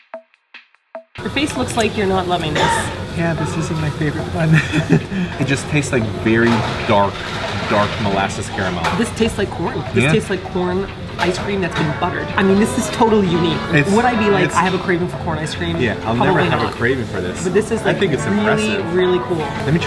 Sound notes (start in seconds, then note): 4.6 laughs nervously